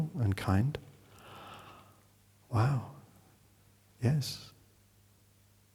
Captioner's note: breathing in